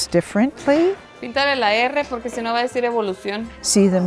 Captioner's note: speaking spanish